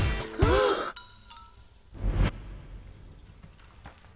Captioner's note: upbeat music; gasps